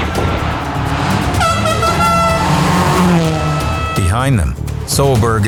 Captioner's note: horn beeping